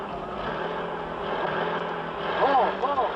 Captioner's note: engine roars